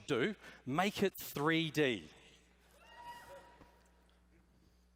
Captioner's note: cheering